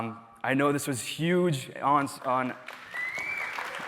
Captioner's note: cheers and applause